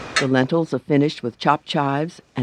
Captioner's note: voiceover